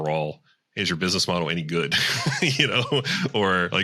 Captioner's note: laughs